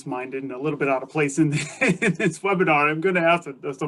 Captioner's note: laughs